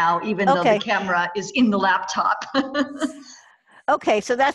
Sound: laughs

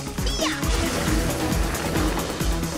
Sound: growling

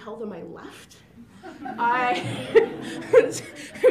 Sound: laughter

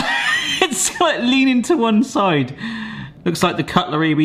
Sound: laughs

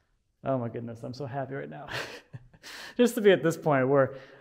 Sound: chuckling

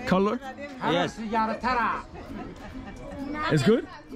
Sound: speaking in foreign language

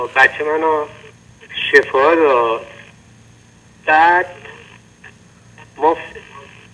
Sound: speaking in foreign language

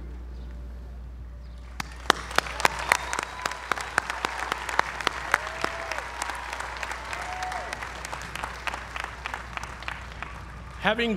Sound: applause

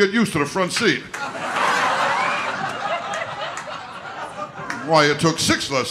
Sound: audience laughter

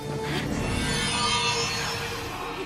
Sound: gasping

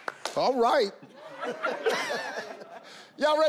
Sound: laughs

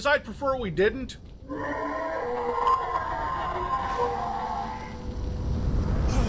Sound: monster screaming

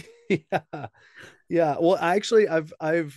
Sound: laughing

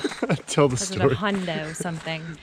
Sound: laughs

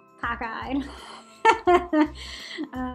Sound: laughing

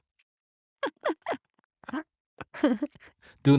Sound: laughing

